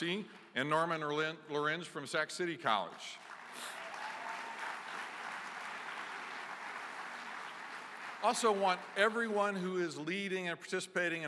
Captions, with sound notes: and Norman Lorenz from Sac City College. [ Applause ] Also want everyone who is leading and participating